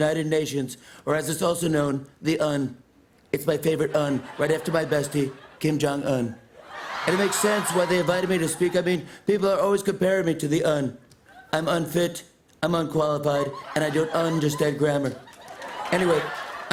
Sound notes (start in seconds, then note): 5.8 laughter; 13.4 laughter and applause